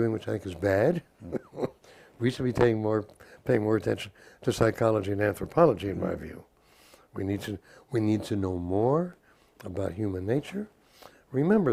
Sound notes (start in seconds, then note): 1.2 laugh